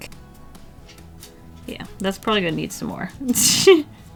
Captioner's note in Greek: Γέλια